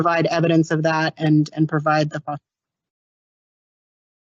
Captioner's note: audio interference